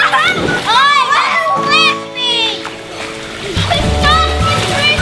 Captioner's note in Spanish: salpicando agua; riéndose